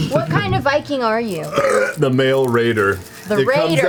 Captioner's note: loud belch